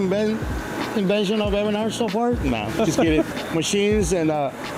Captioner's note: laughing